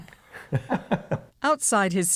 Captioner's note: laughter